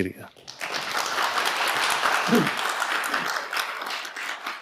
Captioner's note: audience applauding